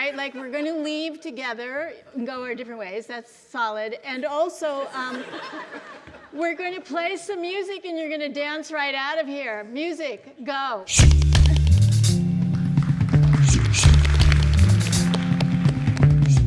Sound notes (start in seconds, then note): 4.9 audience laughs loudly; 12.6 audience applauds